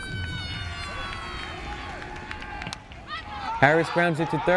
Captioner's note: fire-engine siren wails